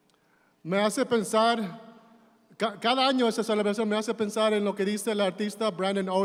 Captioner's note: speaking in Spanish